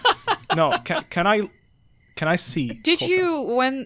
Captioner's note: laughs